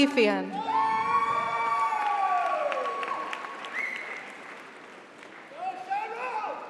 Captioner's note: audience cheers; audience applauds